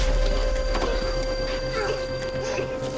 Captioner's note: coughing